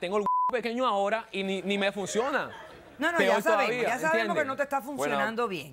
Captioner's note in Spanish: Bip; Risas